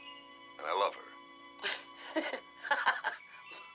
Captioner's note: Lee laughing